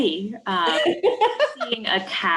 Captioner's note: chuckles